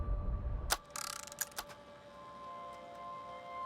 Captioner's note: click and rolling